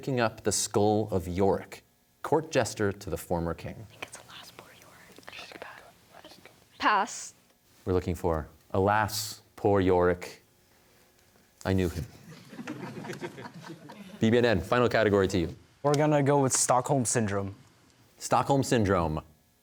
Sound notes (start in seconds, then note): 4.0 whispers; 12.2 audience laughter